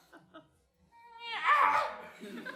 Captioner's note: cry